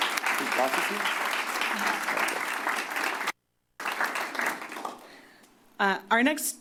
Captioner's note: applause